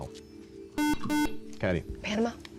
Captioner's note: buzzer